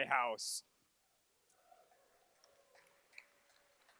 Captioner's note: cheers